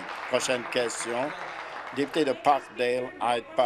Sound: applause

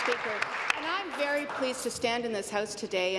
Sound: applause

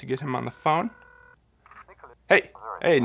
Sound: phone ringing

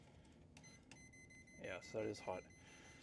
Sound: tester beeping

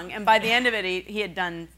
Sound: laughing

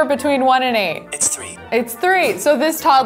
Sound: computer Voice

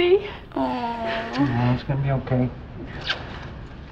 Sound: smooches

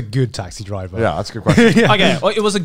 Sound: laughing

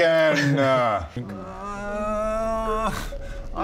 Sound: urrrrrrrrrrrrrrrrrrrrrrghh

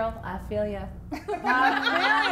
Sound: laughing

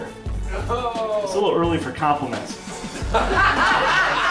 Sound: laughs

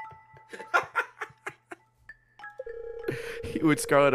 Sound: laughs

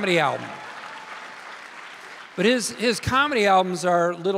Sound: audience cheering in affirmation

